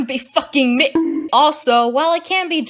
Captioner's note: horny bonk